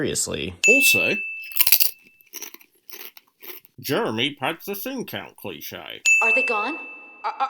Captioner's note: crunch